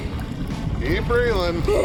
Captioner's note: groaning